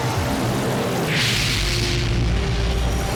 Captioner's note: explosion